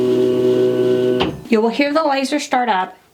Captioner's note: machine thunks